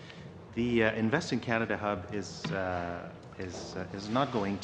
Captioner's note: speaking French